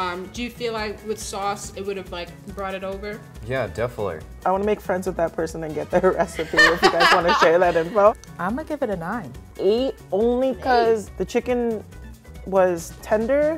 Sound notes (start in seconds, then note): 6.1 laughing